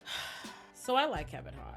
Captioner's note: sighs